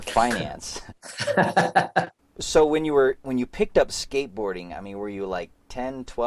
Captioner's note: both laughs